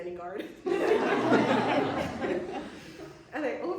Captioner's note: laughter